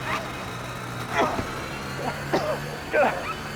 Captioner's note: men panting; coughs; grunting